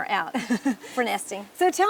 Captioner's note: laughing